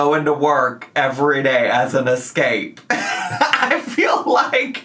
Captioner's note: laughs